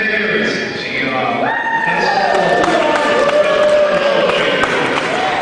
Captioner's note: cheering